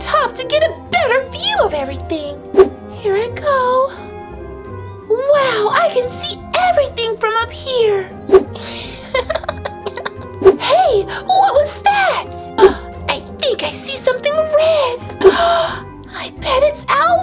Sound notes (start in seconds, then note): 8.8 giggles